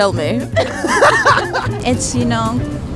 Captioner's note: both laugh